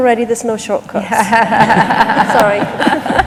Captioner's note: laughter